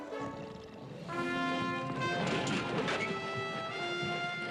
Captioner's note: purring